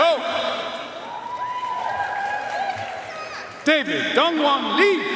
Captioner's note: audience cheering and applauding